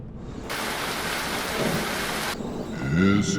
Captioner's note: rain splashing; chanting in foreign language